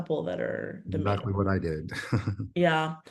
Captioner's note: chuckles